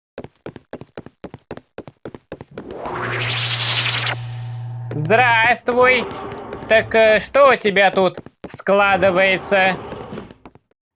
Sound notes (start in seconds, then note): 0.1 footsteps; 2.7 rustle of teleportation